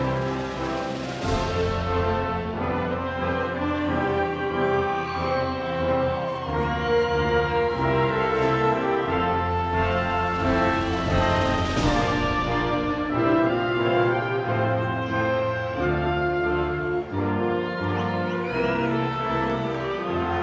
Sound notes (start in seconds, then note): 4.8 audience cheering; 16.8 audience cheering